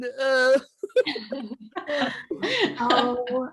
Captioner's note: group laughing